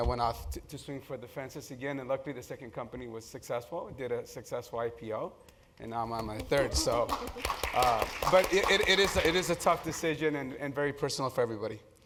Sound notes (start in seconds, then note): 6.4 applause